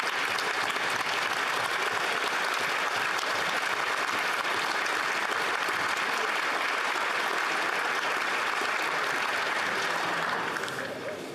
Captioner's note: applause